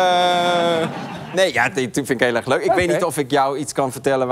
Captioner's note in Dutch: gelach